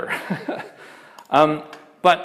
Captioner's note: laughs